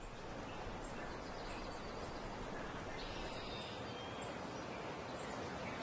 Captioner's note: birds and nature sounds